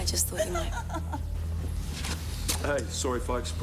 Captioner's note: woman giggling